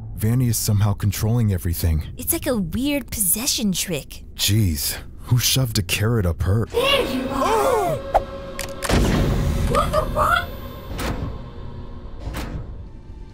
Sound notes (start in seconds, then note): 8.0 gasping; 8.8 camera flickers